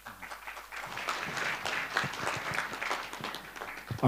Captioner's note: applause